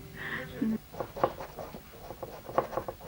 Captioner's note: laughs; knock